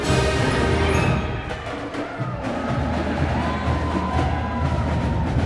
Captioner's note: cheering